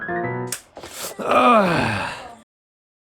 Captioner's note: groan of intense mental anguish